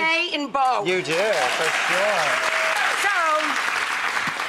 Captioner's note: audience applauds